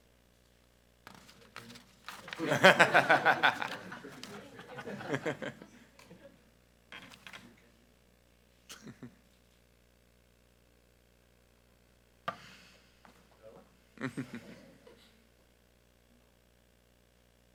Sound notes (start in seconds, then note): 2.2 group laughing